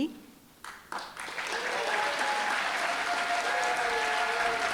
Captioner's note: applause, cheering